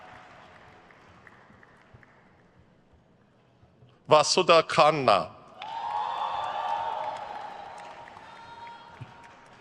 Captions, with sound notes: Vasudha Khanna. (crowd cheers)